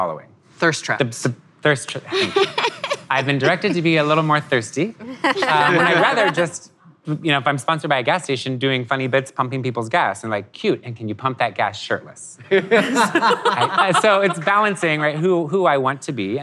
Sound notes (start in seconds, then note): 2.1 laughter